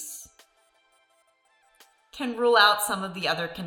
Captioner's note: pause